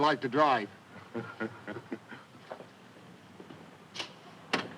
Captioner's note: Pete laughing